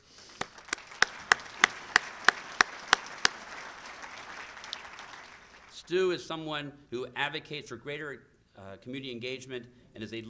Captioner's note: applause